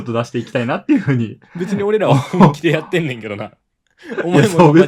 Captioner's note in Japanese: 笑い